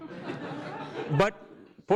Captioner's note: audience laughs